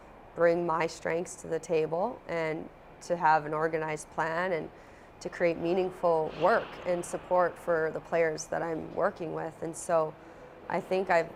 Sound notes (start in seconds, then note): none